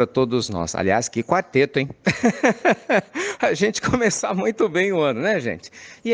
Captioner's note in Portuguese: risadas